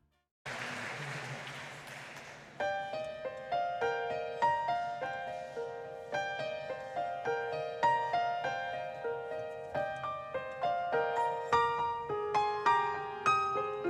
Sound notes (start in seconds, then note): 0.4 audience clapping; 2.7 gentle music